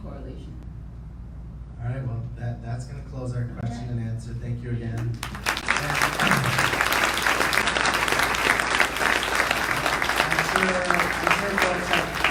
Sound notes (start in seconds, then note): 5.1 audience applauding